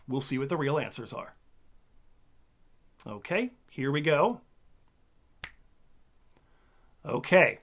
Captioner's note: snap